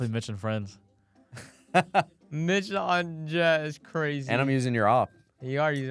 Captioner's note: laughs